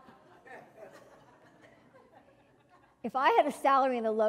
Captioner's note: laugh